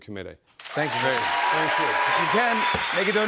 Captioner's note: cheers and applause